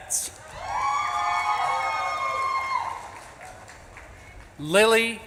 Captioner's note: audience claps and cheers